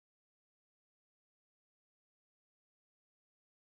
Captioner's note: whoosh